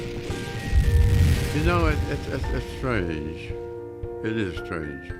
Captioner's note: mellow piano music; water splashes